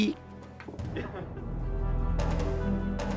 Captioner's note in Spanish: risas